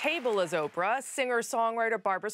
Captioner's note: applause